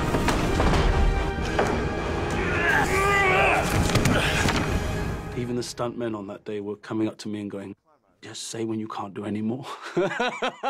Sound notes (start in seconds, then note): 2.8 grunting